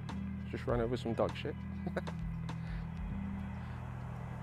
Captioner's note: laughs